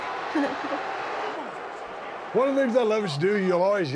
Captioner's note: crowd jeering